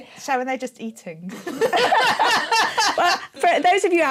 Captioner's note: laughter